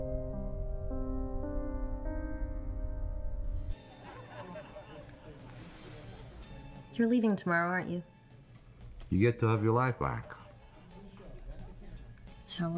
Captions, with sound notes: (television chattering) - You're leaving tomorrow, aren't you? - You get to have your life back.